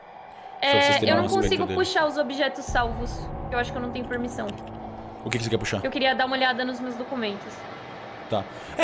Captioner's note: none